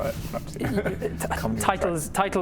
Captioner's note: splutters